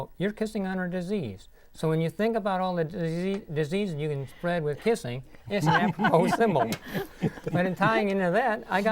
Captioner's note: laughing